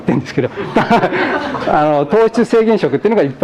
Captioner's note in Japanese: 笑い